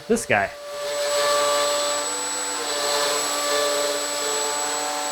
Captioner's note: machinery whirs